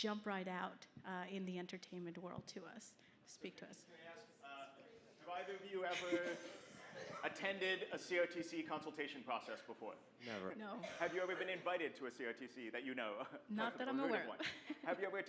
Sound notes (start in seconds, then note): 4.4 voiceover; 11.3 voiceover; 15.1 voiceover